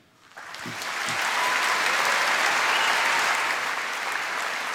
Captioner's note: applause